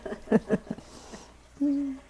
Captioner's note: laughter